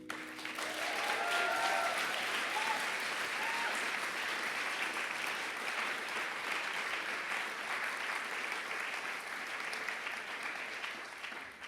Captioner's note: applause